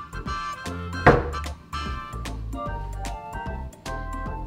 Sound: upbeat music; door closing

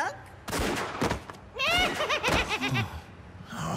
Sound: gunshots, thudding; cackles; sighs

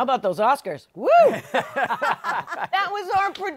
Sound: laughter

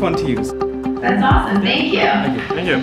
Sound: voiceover

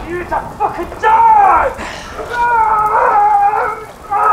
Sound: screaming

